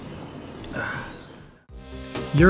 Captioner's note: sighs